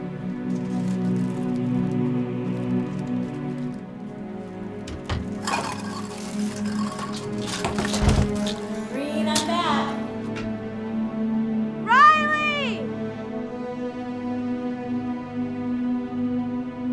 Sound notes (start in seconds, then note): 7.8 bangs